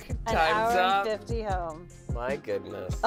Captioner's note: sighs